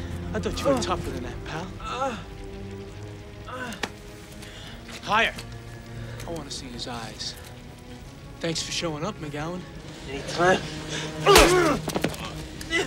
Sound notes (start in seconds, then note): 3.4 groaning